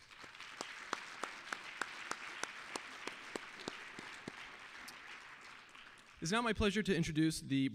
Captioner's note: applause